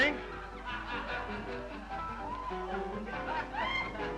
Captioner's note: muffled laughter